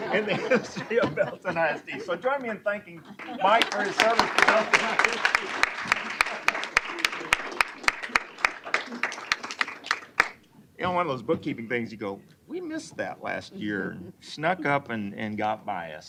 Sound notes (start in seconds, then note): 3.2 applause